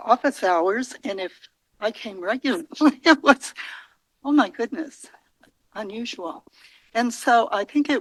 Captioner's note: laugh